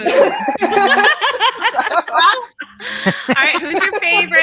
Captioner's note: everyone laughs